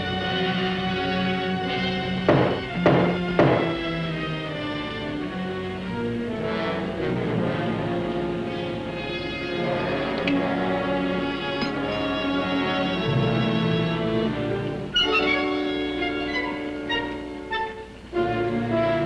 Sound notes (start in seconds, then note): 2.2 banging